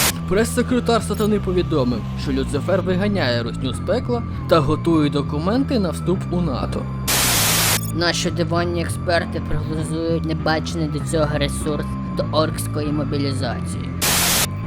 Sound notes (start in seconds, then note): 7.1 sound of TV channel switching; 14.0 tv channel switches